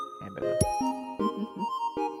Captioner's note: chuckles